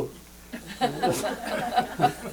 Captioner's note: laughter